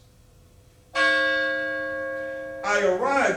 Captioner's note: college bell